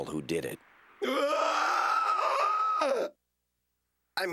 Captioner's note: gasps loudly